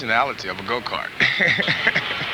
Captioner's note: chuckle